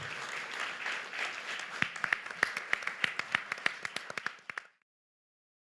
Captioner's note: audience applause